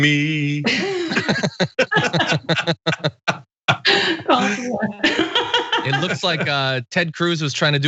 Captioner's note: laugh